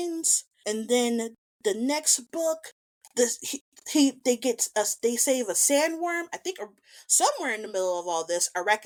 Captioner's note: incoherent stammer